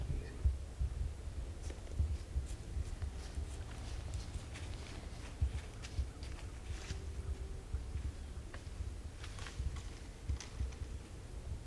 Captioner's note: deer footsteps approaching